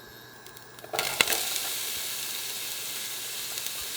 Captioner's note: onions sizzling